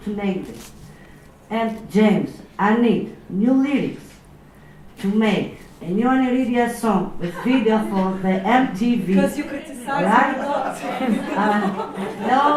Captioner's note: audience laughs